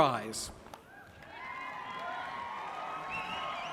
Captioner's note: applause